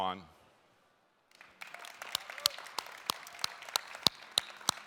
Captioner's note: applauding